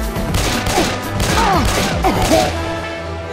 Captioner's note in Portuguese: Sons de tiro e Heavy em dor